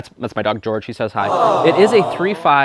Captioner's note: crowd